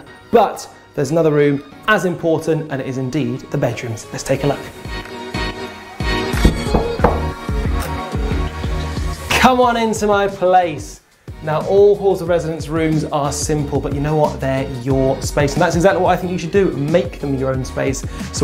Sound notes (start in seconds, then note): 6.4 door knocking